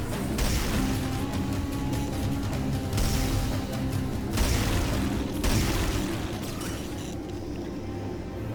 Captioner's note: gunshots